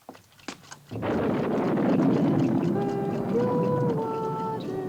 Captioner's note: thunder rumbles